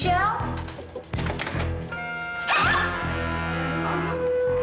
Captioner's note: gasps